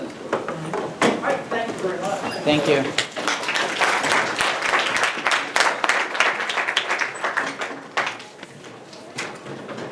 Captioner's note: clapping